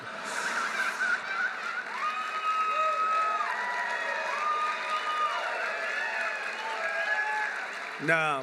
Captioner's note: applause